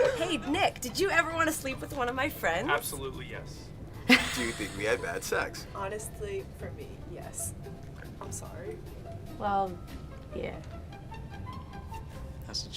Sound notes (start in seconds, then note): 4.1 interviewee laughs; 10.9 playful classical music